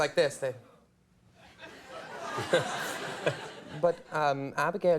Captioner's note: audience laughs